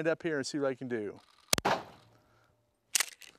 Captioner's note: bang